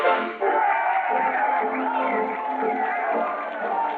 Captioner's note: cheering